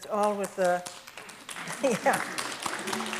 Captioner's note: audience applause